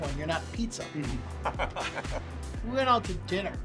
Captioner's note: laughter